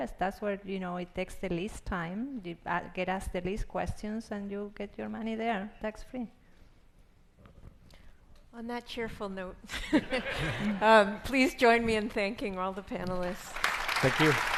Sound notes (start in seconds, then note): 9.8 laughs